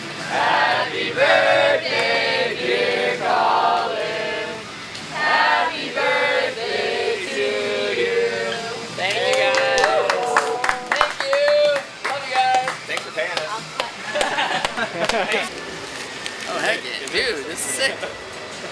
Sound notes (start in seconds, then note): 9.0 people clap and cheer; 14.0 laughs